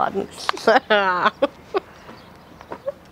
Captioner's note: laughing triumphantly